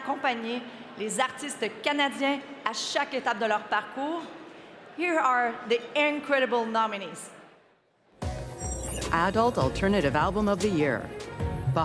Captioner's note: speaking french